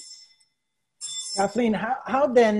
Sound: ringing

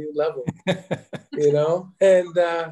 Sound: chuckles

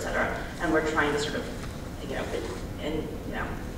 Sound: speaking faintly

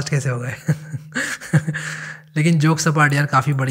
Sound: laughing

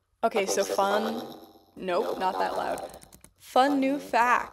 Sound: echoing

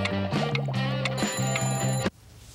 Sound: rings

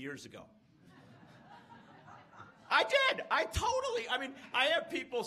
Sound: laughs

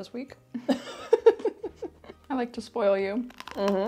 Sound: chuckles

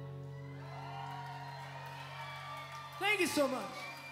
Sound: crowd cheering

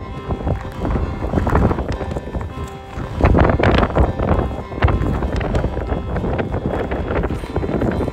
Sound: wind noises

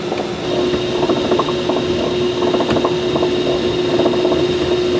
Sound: machinery continues whirring

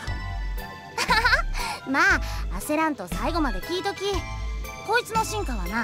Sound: laugh

